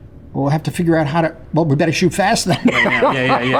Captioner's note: laughs